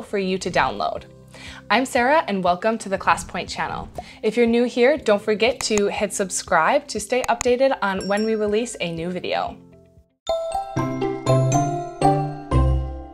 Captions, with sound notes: for you to download. I'm Sara, and welcome to the ClassPoint channel. If you're new here, don't forget to hit subscribe to stay updated on when we release (bell rings) a new video. (gentle music)